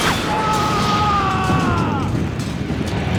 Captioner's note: groaning